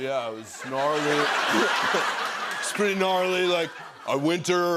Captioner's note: laughter